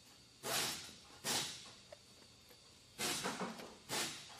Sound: tool buzzes

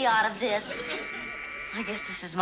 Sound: doorbell buzzes

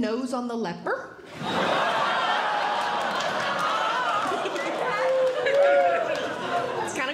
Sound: audience Laughing

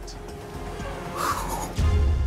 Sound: sighs; dramatic music

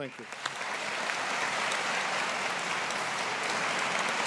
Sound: audience applauding

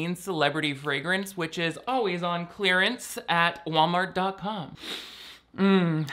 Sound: sniffing

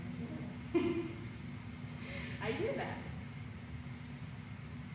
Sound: laugh

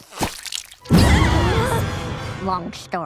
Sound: everyone gasping

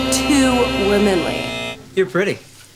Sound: buzzes

